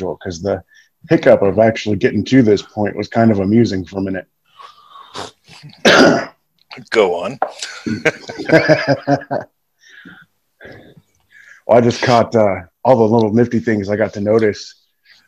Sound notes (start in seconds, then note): 5.0 sneezes; 7.5 laughing